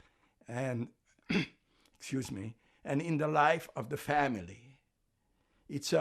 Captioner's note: clears throat